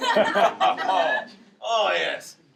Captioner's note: laughing